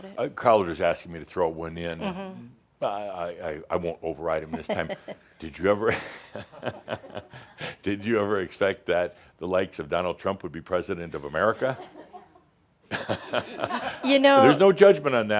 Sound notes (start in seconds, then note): 5.3 she chuckles; 7.1 Adamus chuckles